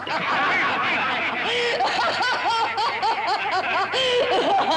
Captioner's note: Cleo laughs; murderers laughing